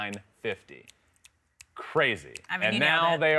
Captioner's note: snapping fingers